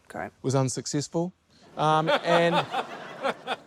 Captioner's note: laughter